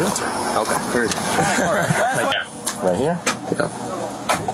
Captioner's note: laugh